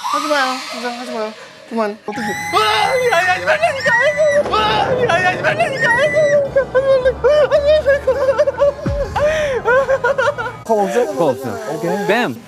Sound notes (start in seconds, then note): 5.6 screaming; 8.9 crying